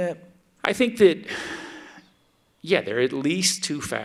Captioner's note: sighs